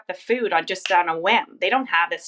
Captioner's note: snaps